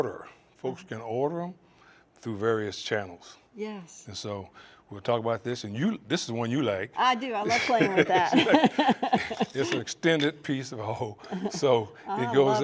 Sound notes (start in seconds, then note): 7.5 laugh; 11.3 chuckles